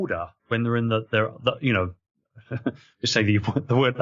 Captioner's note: laughs